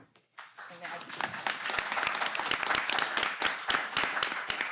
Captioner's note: audience clapping